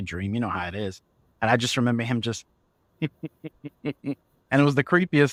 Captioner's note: evil cackles